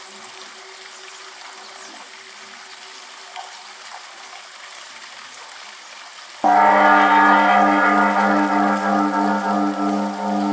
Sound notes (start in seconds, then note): 6.4 gong echoing